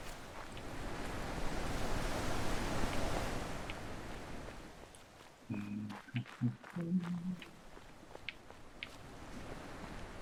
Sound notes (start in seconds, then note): 6.8 humming